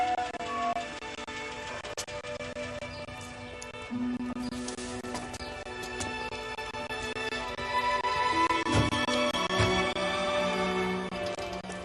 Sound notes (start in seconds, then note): 5.7 brakes squealing